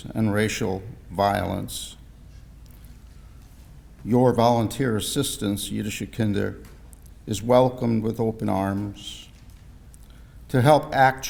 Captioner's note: Hebrew